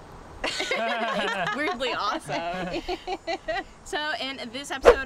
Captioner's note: laughter